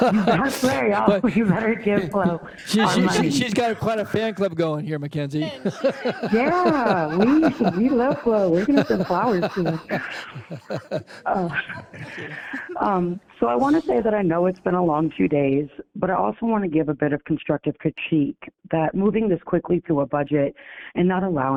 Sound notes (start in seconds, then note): 4.8 laughter